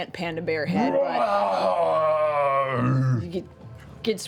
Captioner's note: roars